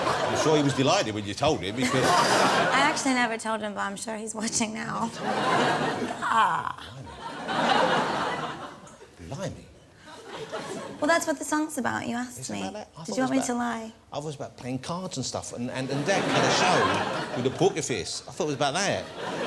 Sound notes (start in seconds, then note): 1.8 laughs